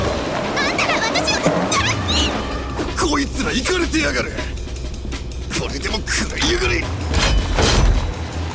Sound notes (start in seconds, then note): 2.1 boink!